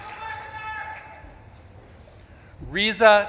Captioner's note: audience claps and cheers; audience member shouts